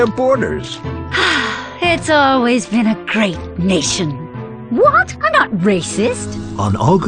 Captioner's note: sigh